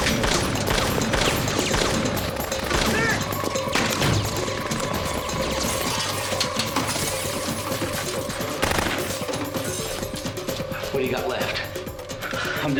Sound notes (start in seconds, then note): 3.7 bullets ricocheting; 5.0 glass shattering; 8.5 gunfire continues